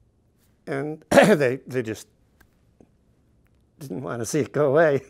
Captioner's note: voice breaking